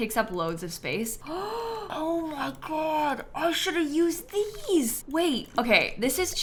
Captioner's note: gasps